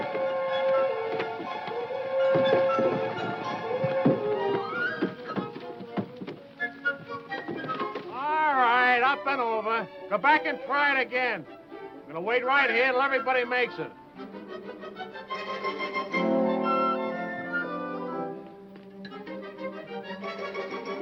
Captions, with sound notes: (tense music) (wood thudding) All right, up and over! Go back and try it again! I'm gonna wait right here till everybody makes it.